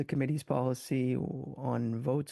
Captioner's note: speaking French